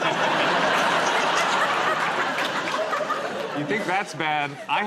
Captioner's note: laughter